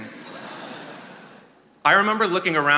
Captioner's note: attendees laughing